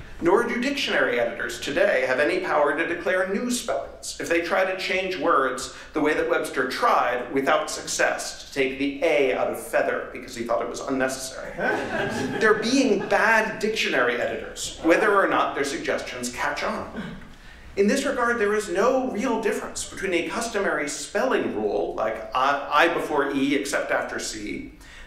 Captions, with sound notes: nor do dictionary editors today have any power to declare new spellings, if they try to change words the way that Webster tried without success to take A out of feather because he thought it was unnecessary. [LAUGHTER] They're being bad dictionary editors whether or not their suggestions catch on. In this regard, there is no real difference between a customary spelling rule like I before E except after C,